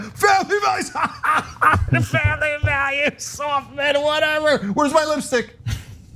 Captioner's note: laugh